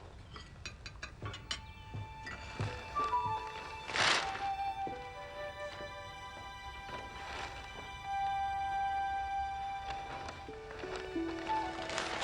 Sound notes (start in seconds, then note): 2.4 paper rustling